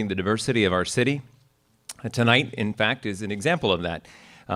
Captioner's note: none